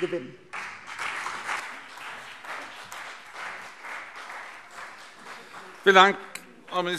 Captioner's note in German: Beifall CDU und BÜNDNIS 90/DIE GRÜNEN